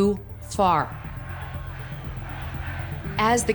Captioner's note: crowd chanting